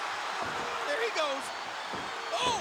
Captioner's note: crowd cheers